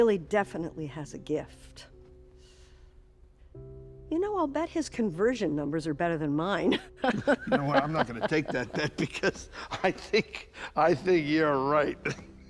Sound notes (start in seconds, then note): 7.0 Miriam chuckling; 10.3 chuckling; 12.0 both chuckling